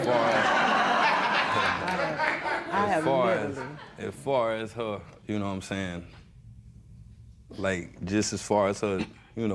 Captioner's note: laughter